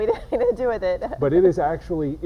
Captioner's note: laughing